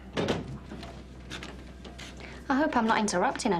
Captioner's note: door opening